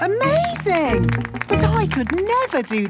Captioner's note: clapping